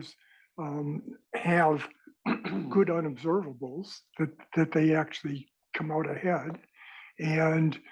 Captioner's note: cough